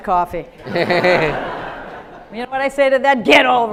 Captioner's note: audience laughs